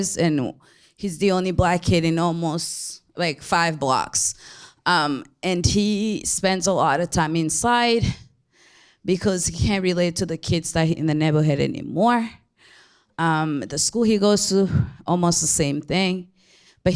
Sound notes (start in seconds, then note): none